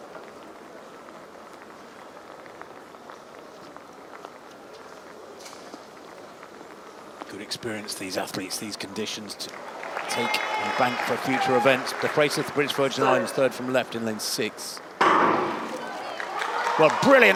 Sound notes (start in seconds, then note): 11.6 applause